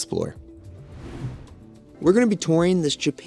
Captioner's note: graphic whooshing